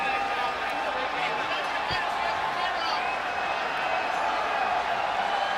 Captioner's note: people chattering continues